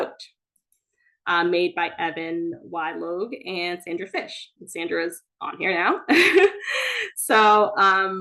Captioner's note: laughs